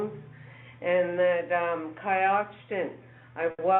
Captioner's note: speaking in foreign language